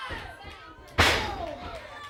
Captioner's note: crowd cheering